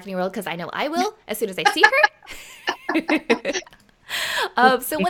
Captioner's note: laughing